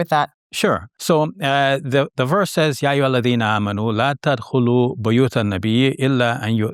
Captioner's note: speaking Arabic